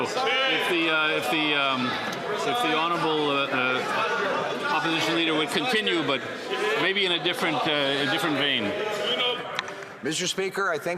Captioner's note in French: voix de l'interprète